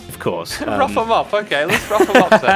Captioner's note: laughs